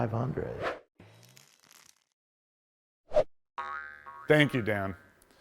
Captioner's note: animation whooshing